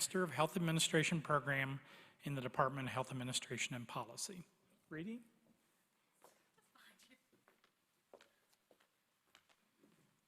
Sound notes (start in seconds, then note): 5.4 laughter